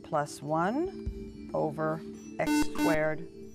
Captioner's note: buzzer